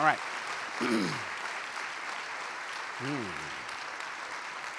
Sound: applause; clears throat

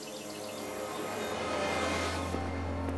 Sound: birds sing

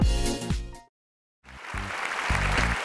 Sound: cheers and applause

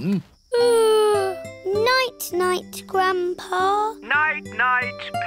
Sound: yawns

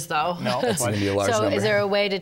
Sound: laughter

